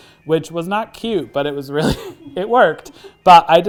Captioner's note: laughs; crew member laughs